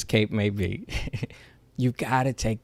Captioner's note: chuckles